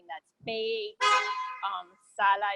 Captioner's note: car horn